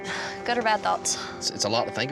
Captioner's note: sighs